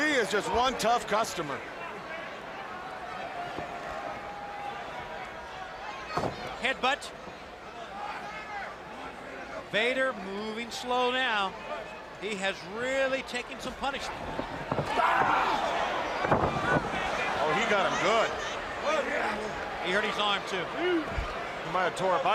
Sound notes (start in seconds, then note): 15.0 crowd cheering; 16.3 crowd chatter